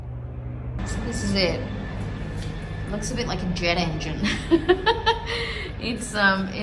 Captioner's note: chuckles